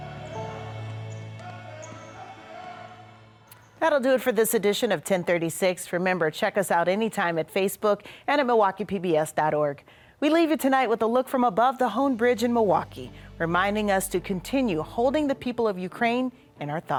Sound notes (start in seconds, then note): 2.7 coach shouting; 2.7 gentle music